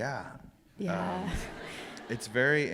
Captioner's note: laughter